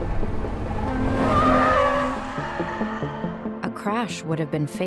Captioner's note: tires screeching